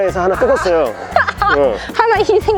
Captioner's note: laughter